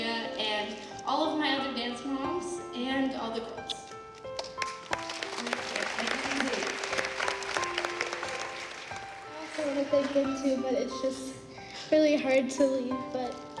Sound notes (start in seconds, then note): 4.3 applause